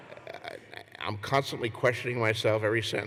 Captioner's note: laughter